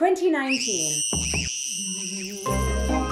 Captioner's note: screaming; spooky music